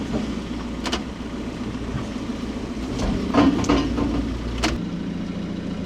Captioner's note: machinery rumbling